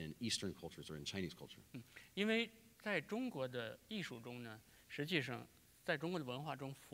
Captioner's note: speaking in Chinese